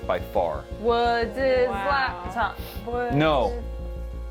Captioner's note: chanting